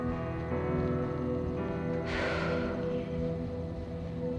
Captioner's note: exhales